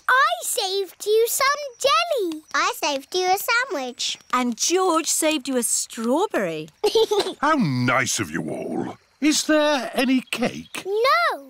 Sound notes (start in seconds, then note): 6.8 giggles